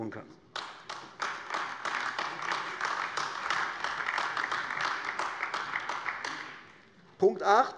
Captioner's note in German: Beifall AfD